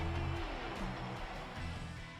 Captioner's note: cheering